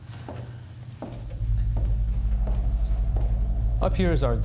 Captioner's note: footsteps clicking